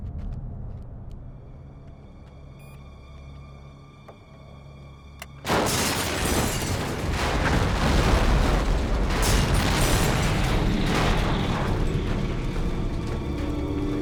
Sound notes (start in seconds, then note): 3.0 beep; 5.5 explosion booms; 5.7 suspenseful music